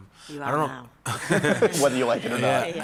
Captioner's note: laughter